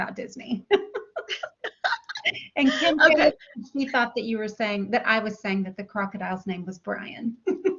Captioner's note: laughter; laughter